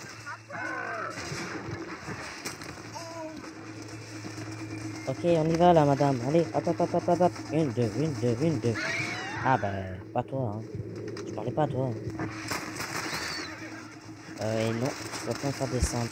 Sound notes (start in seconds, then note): 12.3 fires in several quick shots